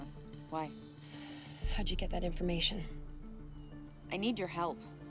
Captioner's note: sighs